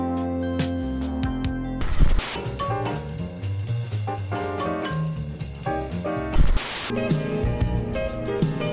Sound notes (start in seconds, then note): 1.8 TV static; 2.7 upbeat swing; 6.3 TV static